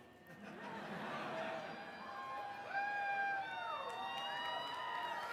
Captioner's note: laughter; cheering